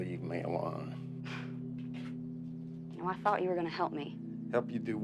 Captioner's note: Joe sighs